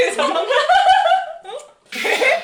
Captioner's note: laughing